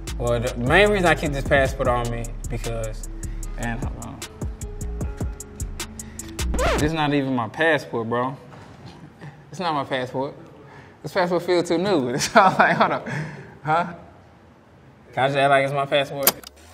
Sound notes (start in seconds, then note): 6.4 record scratch; 12.3 laughs; 16.5 rewinding